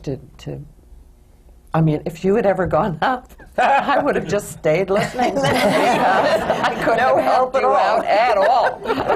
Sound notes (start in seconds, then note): 4.9 laughter; 5.0 laughs